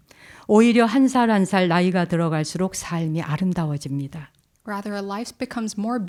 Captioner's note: speaking in Korean